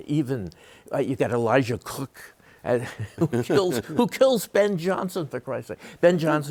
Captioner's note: chuckles